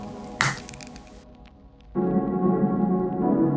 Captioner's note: tube popping